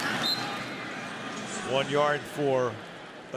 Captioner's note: whistle